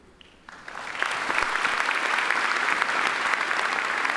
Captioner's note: applauding